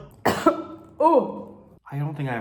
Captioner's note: coughs